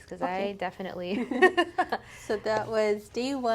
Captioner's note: both laughing